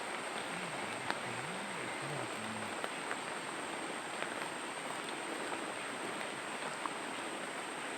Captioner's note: animal sounds